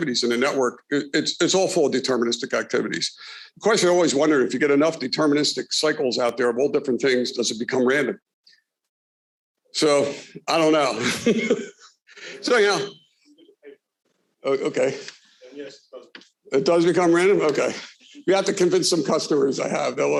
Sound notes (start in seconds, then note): 10.9 laughs